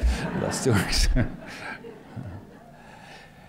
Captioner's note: laughter